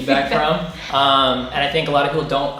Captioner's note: laughing